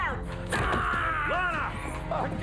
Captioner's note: Phil screams